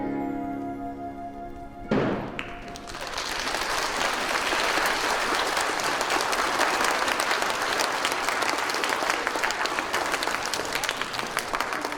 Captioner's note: audience applauding